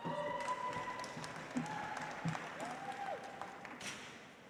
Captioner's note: audience applauds